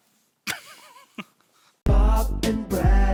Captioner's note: laughs